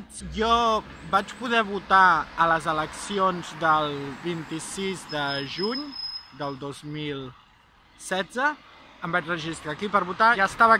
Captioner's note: Spanish